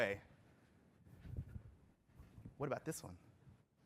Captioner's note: off microphone